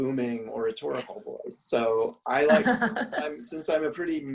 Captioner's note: laugh